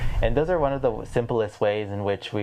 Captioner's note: none